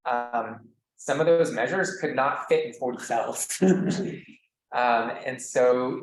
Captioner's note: laughs